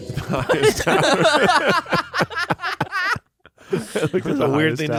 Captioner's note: everyone laughs